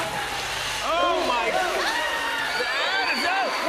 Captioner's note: scream medley